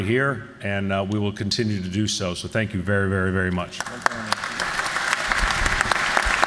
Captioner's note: applause